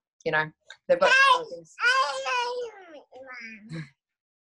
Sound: baby cooing

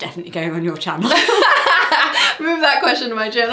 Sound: laughs

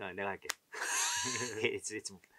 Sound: laughs

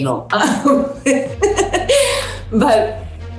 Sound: laughs

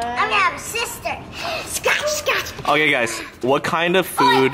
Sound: makes playful noises

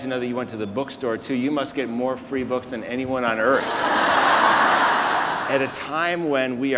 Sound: laughing

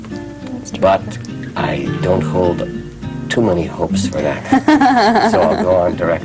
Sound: laughter

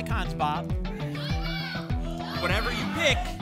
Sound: audience shouting icons

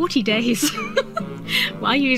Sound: laughs

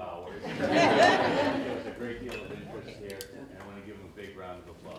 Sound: laughter

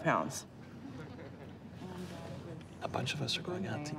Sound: group chuckling

